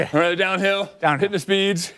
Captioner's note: laughter